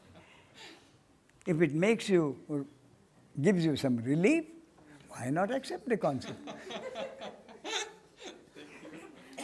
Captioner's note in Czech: smích